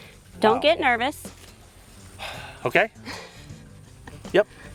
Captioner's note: sigh